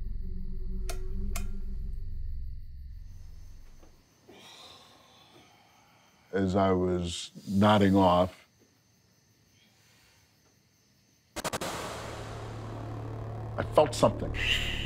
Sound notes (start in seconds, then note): 1.3 switch clicking; 1.8 insects droning; 4.2 sighs; 11.4 suspenseful music